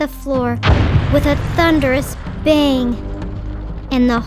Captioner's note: model smashing